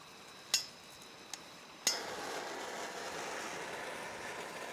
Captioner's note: blowtorch hissing